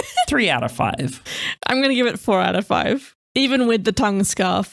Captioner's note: laughing